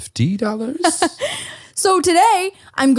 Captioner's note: laughing